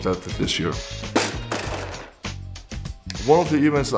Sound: bang

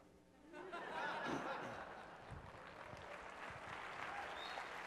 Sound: audience applauding

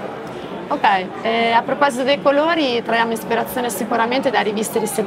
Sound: speaks Italian

